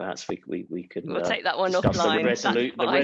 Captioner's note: laughs